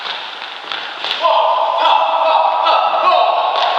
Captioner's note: shouting with each block